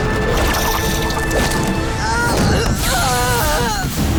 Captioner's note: groaning